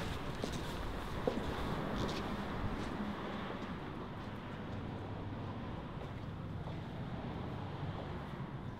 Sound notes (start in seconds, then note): 3.5 wind Blowing Coldly